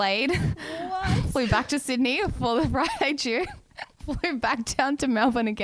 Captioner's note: laughs